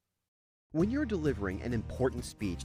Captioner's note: voiceover